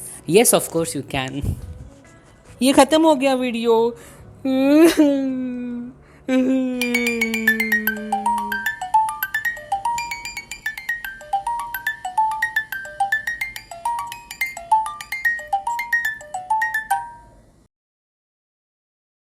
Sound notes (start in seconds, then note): 1.1 laughs sneakily; 1.8 in a shocked tone; 4.4 cries